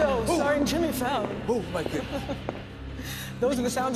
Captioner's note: footsteps